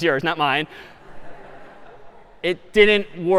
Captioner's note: خنده